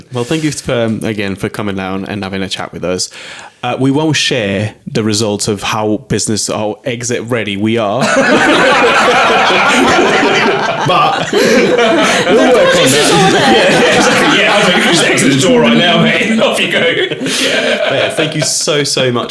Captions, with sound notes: Well, thank you again for coming down and having a chat with us. We won't share the results of how business, how exit ready we are. (all laughing) But, we'll work on it. There's the door there (all laughing) Andre you can just exit the door right now, mate Thank you so, so much